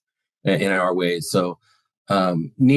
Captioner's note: speaks foreign language